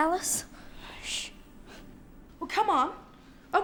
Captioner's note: shushes